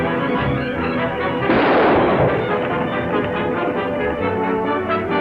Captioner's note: gun fires